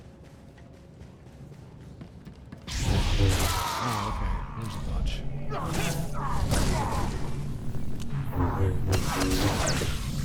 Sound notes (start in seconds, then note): 1.7 gunfire; 7.3 gunfire